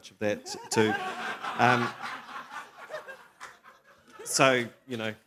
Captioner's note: laughter